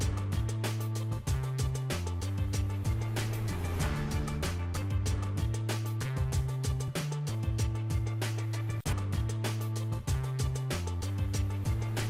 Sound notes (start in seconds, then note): none